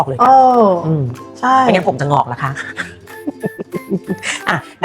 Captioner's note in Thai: เสียงหัวเราะ